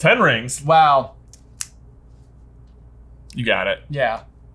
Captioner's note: snaps